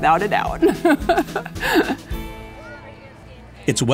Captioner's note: laughter